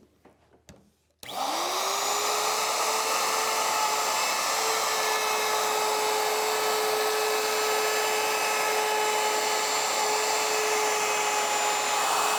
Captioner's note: router whirs